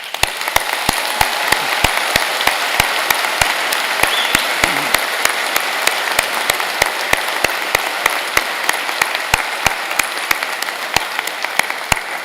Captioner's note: applause